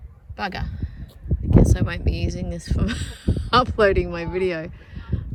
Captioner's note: laughing